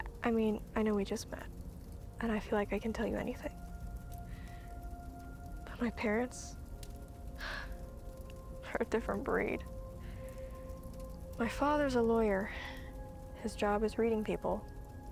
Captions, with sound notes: I mean, I know we just met, and I feel like I can tell you anything, (inhales) but my parents (exhales) are a different breed. (inhales) My father's a lawyer. (exhales) His job is reading people.